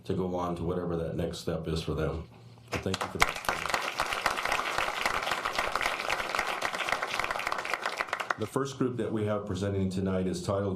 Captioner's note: applause